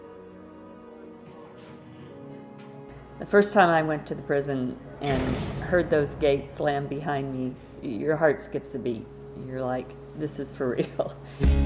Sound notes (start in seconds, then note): 0.0 gentle music; 5.0 gate slams